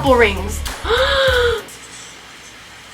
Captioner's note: gasps